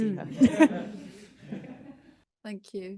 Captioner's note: everyone giggling